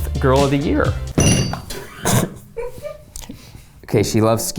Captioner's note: ceramic clangs; producers laugh